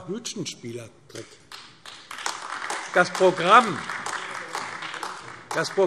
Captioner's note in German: Beifall AfD